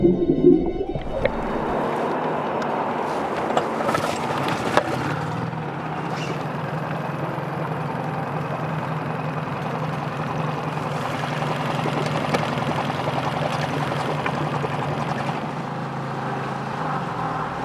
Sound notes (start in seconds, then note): 4.2 boat engine droning; 8.3 suspenseful music continues